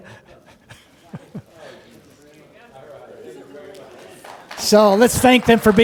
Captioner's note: laughs